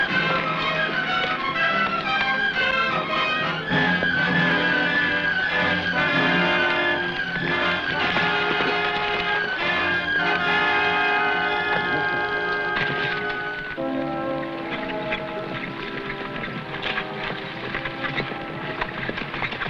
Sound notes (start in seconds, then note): 2.0 tense music; 8.1 horse hooves pattering